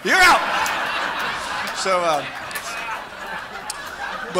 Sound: big laugh

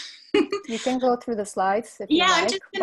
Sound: laughs

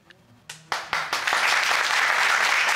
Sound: audience applauding

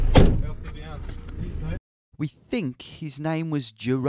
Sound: speaking in a foreign language

